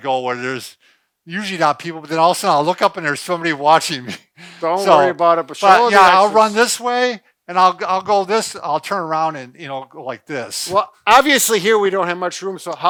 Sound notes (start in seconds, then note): 4.5 laughs